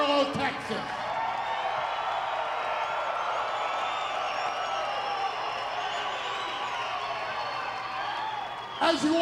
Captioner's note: applause